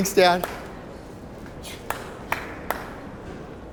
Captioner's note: clapping